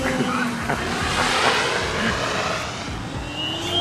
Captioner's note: mad Scientist Cackle